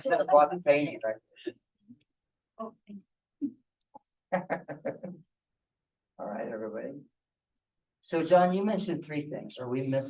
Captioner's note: laughter